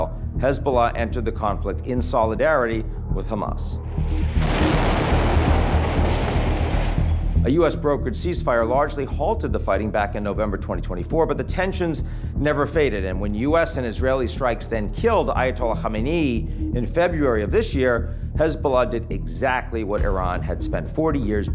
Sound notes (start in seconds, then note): 3.8 tense music; 4.3 explosion booming